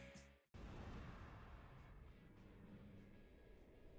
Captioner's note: whoosh